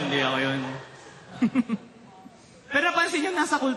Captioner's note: chuckles